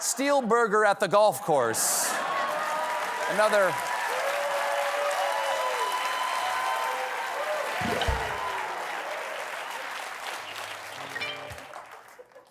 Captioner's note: laughter; applause